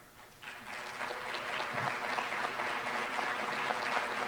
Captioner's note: applause